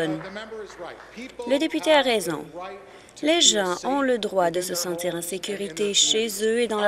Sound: applause

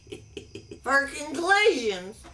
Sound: laughs

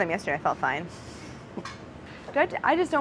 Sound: laughing

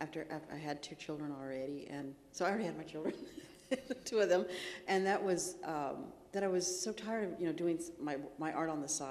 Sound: laughs

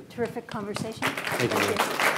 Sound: applause

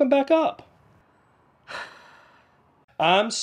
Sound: sighs

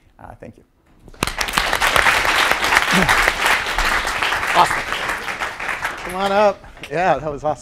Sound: applause

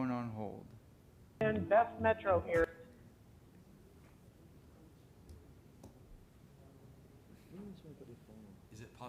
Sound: background audio stops

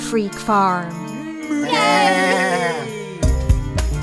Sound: animal noises

